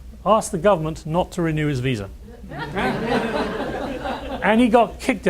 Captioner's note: laughter